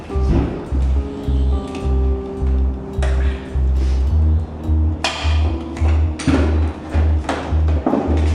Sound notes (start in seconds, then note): 0.7 sonic buzzing